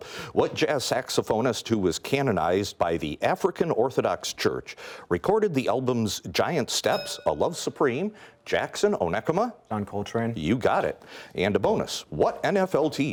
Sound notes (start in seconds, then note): 6.9 bell rings